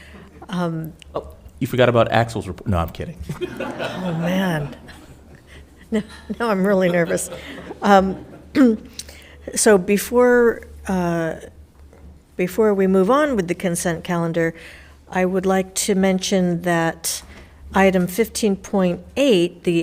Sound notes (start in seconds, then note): 3.3 audience laughing